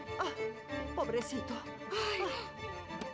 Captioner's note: exhales